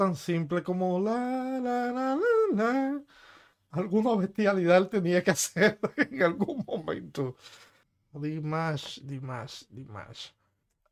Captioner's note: hum